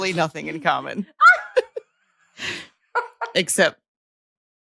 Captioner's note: laughing